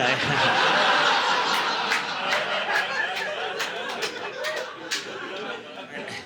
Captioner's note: audience laughing